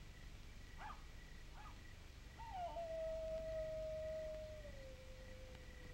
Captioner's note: coyotes barking and howling